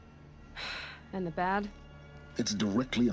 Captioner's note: sigh